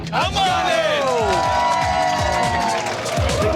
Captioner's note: cheering